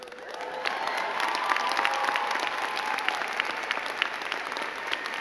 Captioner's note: crowd clapping and cheering